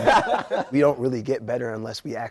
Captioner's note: all laughing